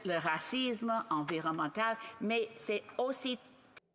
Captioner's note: speaking French